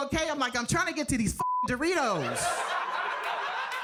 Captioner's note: beep